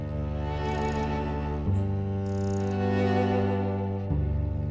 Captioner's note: birds chirping